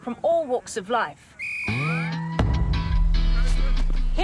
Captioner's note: whistle blows